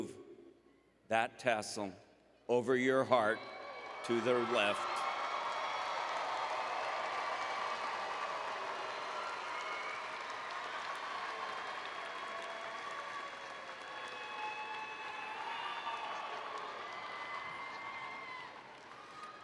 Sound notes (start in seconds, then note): 5.6 applause and Cheering